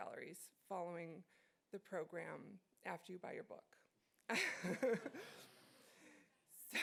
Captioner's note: laughs